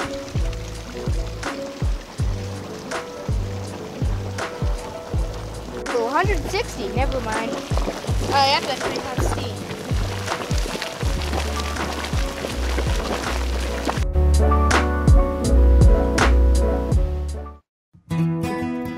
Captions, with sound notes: So 160, never mind Uh, that's pretty hot steam. (bubbling) music playing